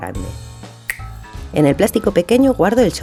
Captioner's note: snap